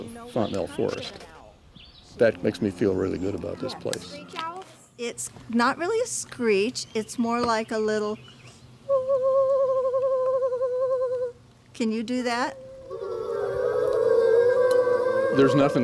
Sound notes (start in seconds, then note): 12.2 imitates owl; 12.3 class imitates owl